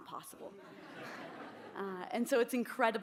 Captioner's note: laughter